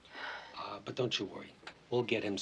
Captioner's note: Allison sighs